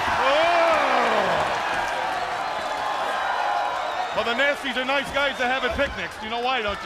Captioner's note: crowd cheering